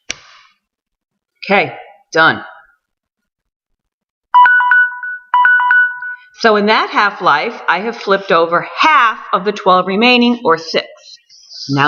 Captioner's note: alarm goes off